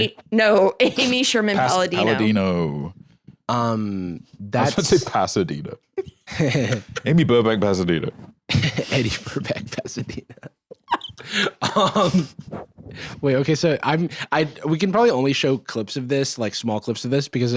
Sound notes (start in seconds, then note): 0.6 laughs; 6.0 chuckles; 8.5 laughing